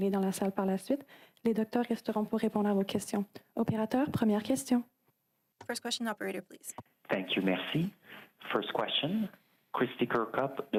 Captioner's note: speaking French